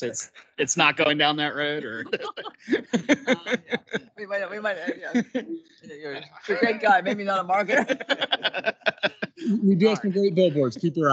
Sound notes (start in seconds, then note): 2.3 council members laughing; 8.3 council members laughing